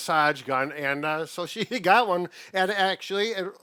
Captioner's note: chuckling